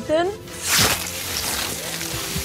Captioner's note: blood gushing